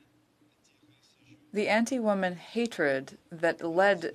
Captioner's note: speaking French